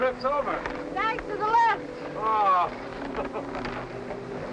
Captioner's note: chuckling